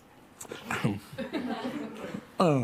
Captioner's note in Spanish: Risas